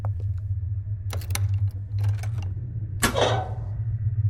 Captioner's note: footsteps; metallic unlocking